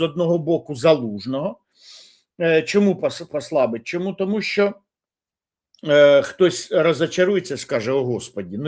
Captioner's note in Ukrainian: сопіння